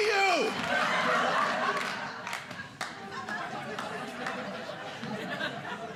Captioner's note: audience laughing